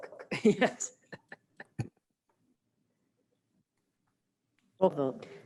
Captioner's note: laughs